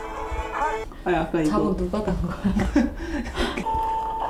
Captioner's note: giggle